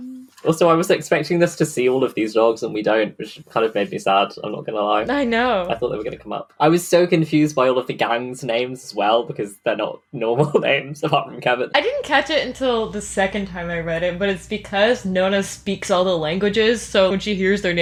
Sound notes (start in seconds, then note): 10.7 laughing